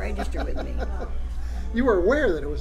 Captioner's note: laughs